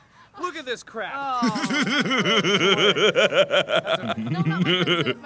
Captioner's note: laughs